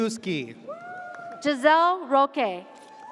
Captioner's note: audience cheers